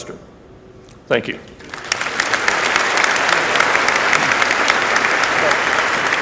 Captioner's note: applause